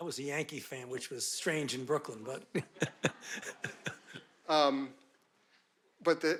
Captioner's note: chuckles